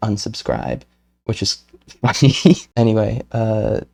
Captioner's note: laughs